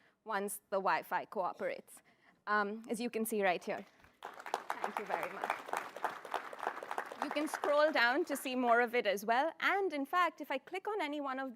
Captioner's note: applause